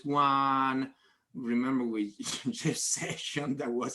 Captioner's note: laughs